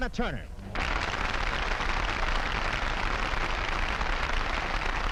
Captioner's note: audience clapping